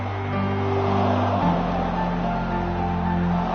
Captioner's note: crowd groaning